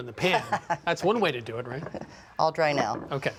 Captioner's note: laughs